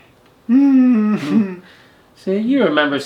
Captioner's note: humming